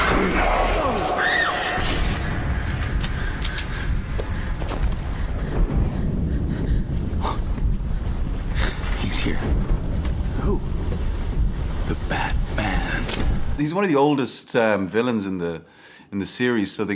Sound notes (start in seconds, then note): 0.9 Rachel screams; 2.0 lights clicks; 2.6 guns cock